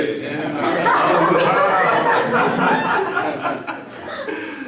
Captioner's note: everyone laughing